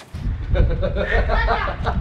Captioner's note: laughing